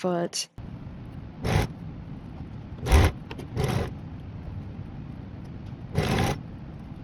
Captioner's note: tiny jackhammers